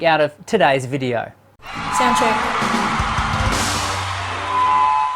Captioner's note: audience cheering